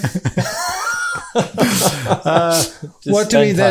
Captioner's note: laughing